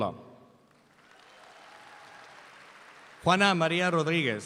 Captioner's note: audience applauds